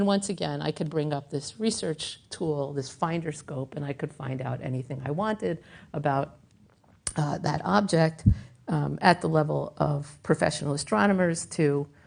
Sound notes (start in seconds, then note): none